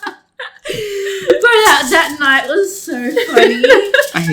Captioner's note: laugh; laughs